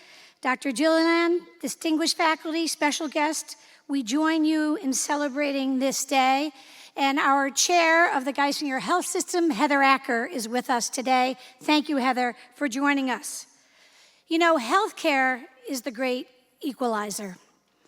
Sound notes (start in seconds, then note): none